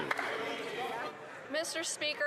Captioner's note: some Applause